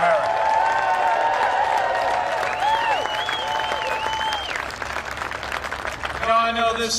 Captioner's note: cheering and applause